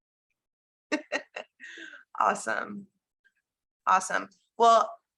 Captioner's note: laughs